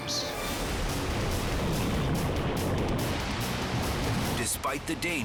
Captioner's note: upbeat dramatic music; waves crashing